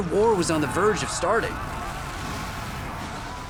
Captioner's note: chattering